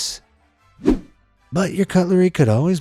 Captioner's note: image whooshing